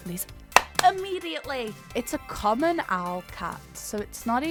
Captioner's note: claps